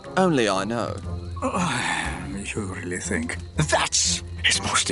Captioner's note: sighs